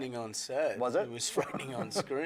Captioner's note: laughs